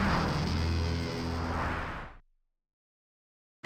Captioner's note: whoosh